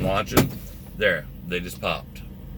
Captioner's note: valve popping